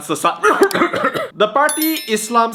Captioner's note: cough cough